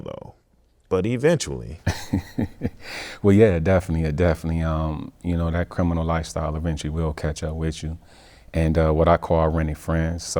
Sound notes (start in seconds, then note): 1.8 laughing